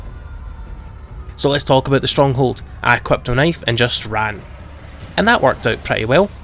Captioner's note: insert run vine sound